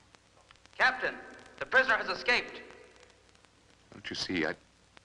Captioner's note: loudspeaker